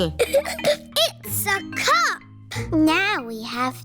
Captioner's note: giggles